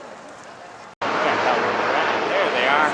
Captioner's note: helicopter Noise